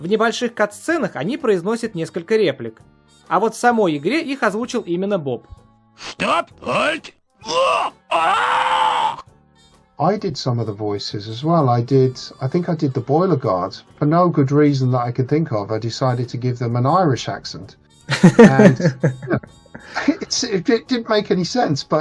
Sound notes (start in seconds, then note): 18.1 chuckles